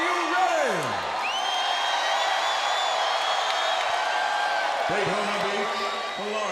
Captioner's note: crowd cheering